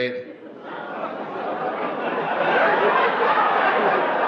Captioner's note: audience laughs